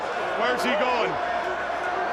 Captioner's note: crowd chatter